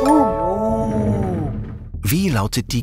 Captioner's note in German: bewundernd